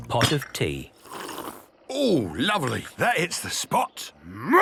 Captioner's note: sipping